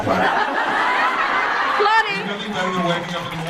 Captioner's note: audience laughs